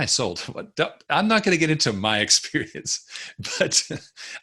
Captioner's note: chuckles